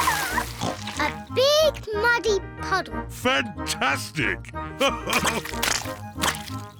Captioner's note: oinks; laughs